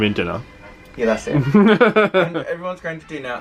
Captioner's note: laughs